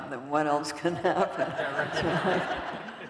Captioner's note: laughter